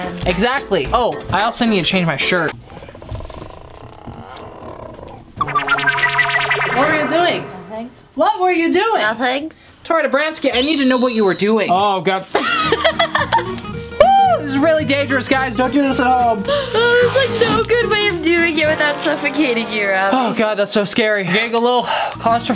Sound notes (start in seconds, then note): 3.1 sound effects; 12.4 laughing